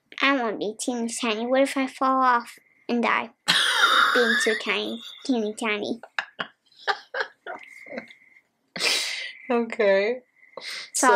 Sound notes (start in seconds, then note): 5.9 laughing